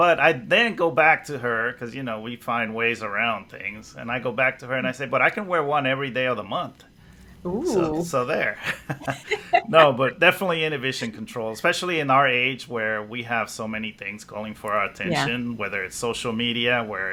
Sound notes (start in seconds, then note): 8.4 laughs